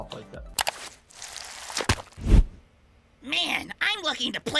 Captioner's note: mouse clicks; stomach squelches